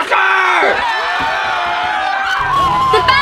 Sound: cheering

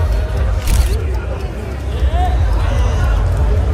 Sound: camera clicks

